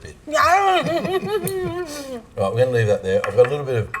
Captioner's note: laughs